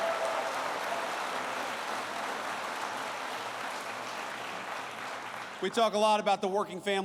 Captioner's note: applause